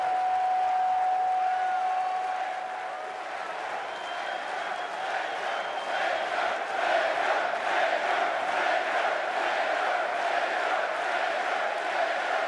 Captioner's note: cheers and applause